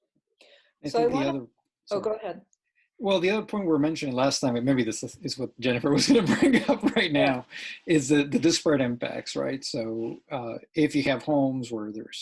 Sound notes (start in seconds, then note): 5.6 laughs